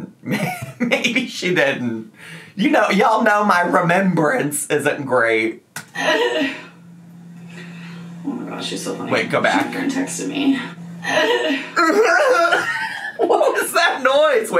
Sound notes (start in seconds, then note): 5.9 laughs; 11.0 laughs